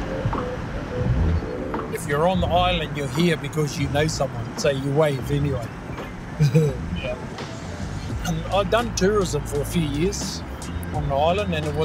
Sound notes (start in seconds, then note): 6.4 laughing